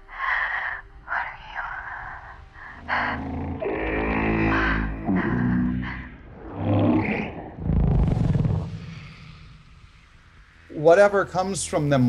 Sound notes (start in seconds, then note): 1.9 exhales deeply; 2.8 creature croaks; 6.4 creature whirs